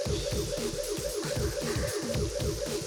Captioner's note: breath